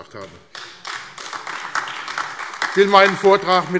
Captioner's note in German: Beifall AfD